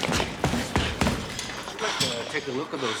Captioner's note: panting, grunting